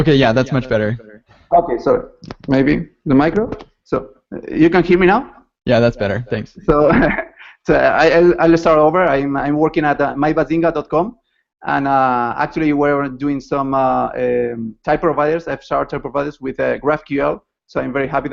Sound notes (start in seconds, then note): 6.8 laughter